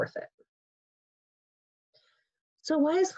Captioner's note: pause